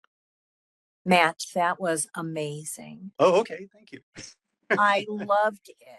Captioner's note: laughing